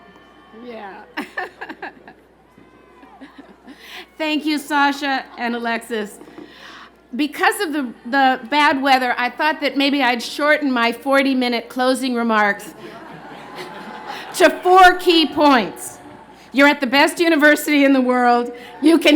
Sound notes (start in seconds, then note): 1.1 laughter